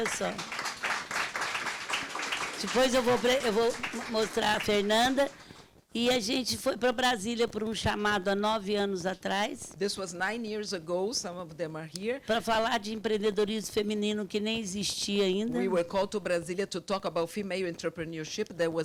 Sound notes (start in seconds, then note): 0.0 audience clapping; 2.9 speaking Portuguese; 12.5 speaking Portuguese